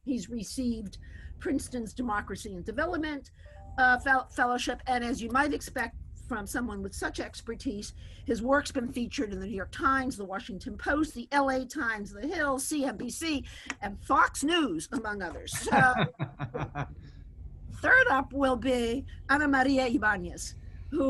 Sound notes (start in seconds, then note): 15.5 chuckles